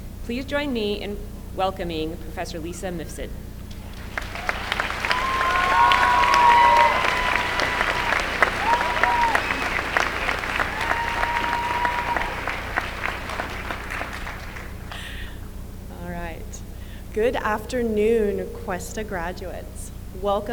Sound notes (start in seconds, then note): 4.9 applause